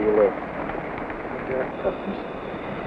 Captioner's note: boy mumbles